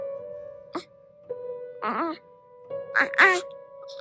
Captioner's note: baby cooing